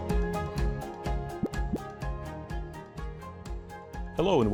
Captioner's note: graphic pops